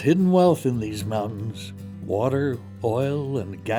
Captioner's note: voiceover